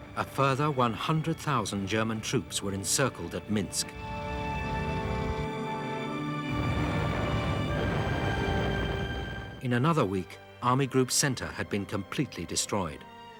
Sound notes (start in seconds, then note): 4.8 stirring symphonic music continues; 6.3 explosions booming; 6.7 tank rumbling